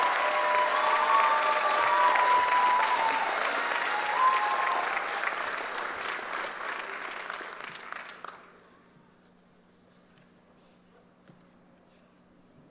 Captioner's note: cheers and applause